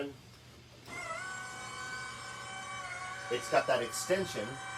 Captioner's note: seat motor running